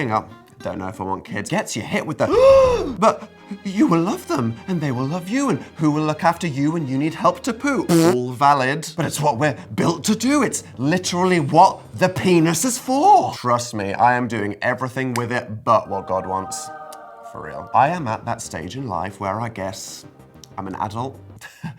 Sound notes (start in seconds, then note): 2.2 shocked sigh; 21.6 chuckles